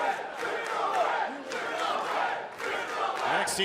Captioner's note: fans chanting